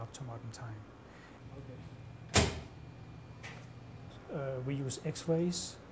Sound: sharp bang

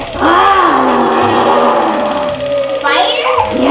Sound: growling

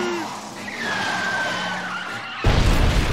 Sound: screeching; booming

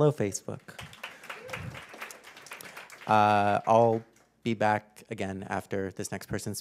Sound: applause

